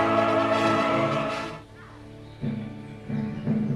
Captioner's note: birds chirping; somber music